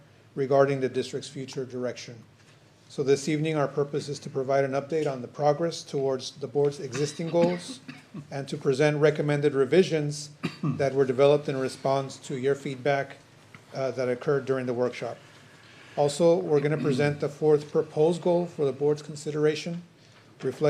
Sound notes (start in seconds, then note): 10.4 clears throat